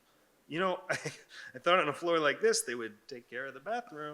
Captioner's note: laughs